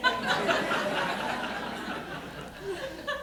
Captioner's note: laughter